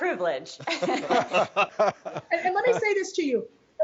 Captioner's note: all laughing